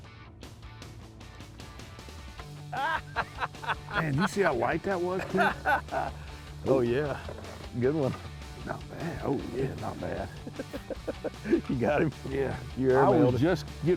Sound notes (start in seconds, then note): 2.7 laughter; 10.1 laughter